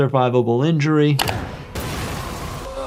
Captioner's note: screen clicking; explosion blasting